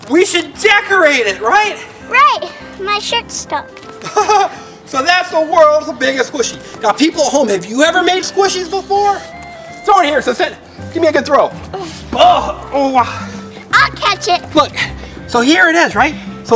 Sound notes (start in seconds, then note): 4.0 Mr. Engineer laughs; 12.1 Mr. Engineer grunts